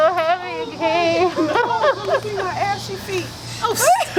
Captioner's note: laughter